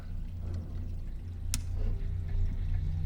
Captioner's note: switch clicks